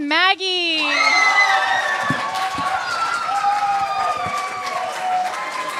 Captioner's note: applause